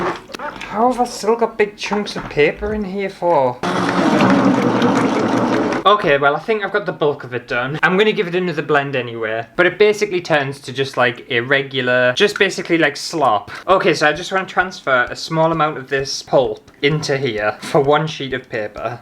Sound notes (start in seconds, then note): 3.6 blending Noises